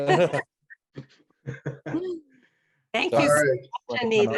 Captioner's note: laughing